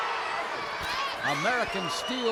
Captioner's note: crowd boos